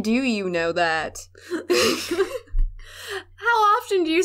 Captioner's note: laughter